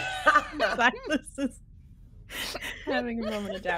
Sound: people laughing

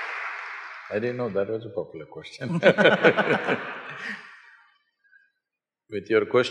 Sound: applause; laughter

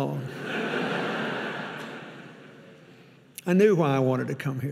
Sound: audience laughing

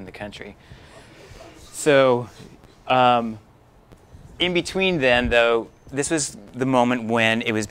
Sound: light Laugher

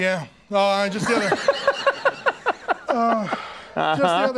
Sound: Conan laughing

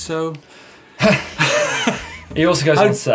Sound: laughs; sighs

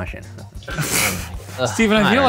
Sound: laughs

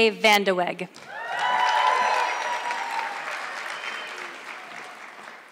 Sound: audience clapping

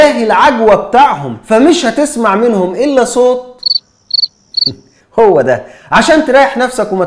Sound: cricket chirping

